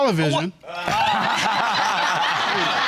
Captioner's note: audience laughs